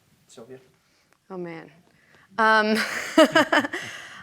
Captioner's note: laughs